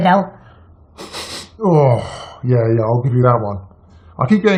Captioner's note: sniffing